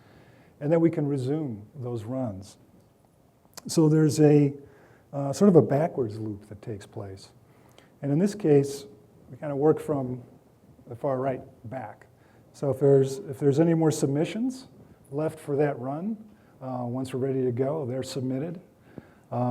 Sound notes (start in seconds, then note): none